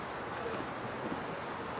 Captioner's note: wind howling; speaking faintly